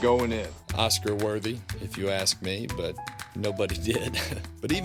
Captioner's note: chuckling